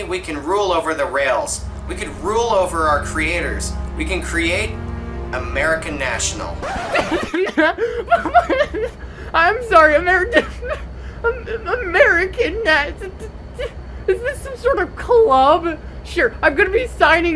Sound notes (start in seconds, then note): 6.6 continues laughing; 6.6 bursts out laughing; 6.6 laughing